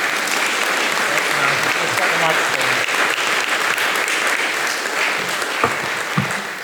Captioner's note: applause